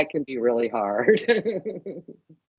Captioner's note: laughing